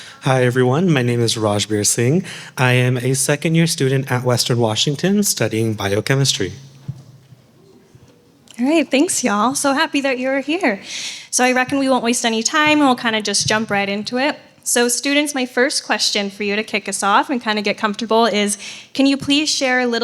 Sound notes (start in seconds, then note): none